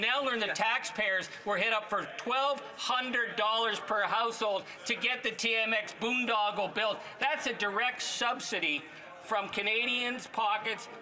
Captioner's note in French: voix de l'interprète